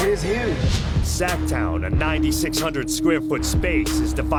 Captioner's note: voiceover